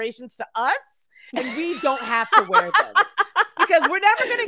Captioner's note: laughs